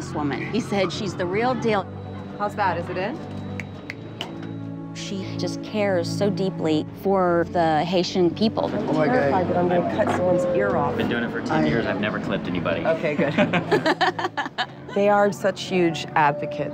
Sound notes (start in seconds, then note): 13.1 laughing; 13.1 laughs